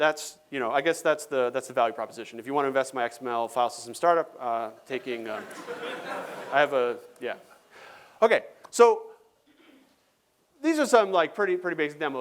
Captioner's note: laughter